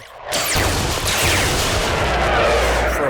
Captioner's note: energy beams